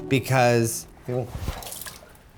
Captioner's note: spills